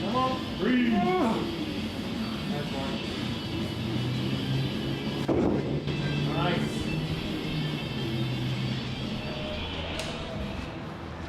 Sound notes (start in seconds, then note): 2.3 upbeat music; 5.5 ring thuds; 7.7 upbeat music